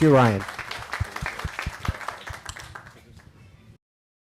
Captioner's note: audience applauding